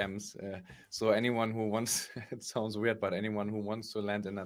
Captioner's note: laughs